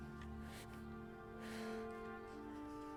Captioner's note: exhales